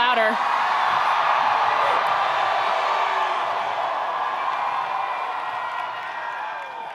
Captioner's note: attendees cheering; attendees applauding